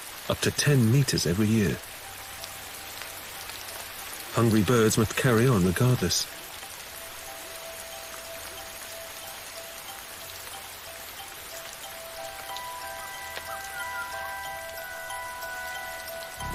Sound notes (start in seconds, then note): 6.4 rain pattering; 12.2 mystical music